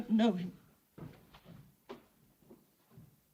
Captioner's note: footsteps